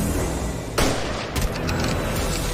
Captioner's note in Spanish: Disparos